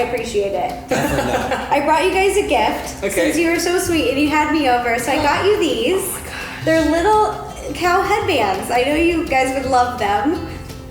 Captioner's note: laughing